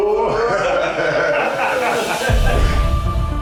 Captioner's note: laughter